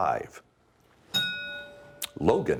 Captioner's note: ding